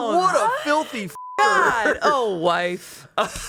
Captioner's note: beep; laughs